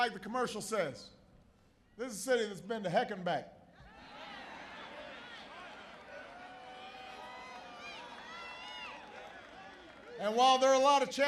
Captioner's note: applause